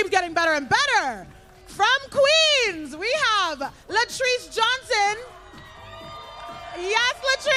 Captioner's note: applause